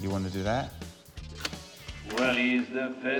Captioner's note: click!